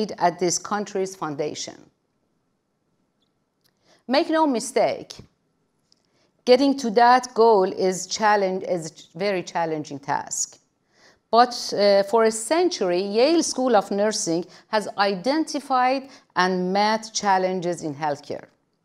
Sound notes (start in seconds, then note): none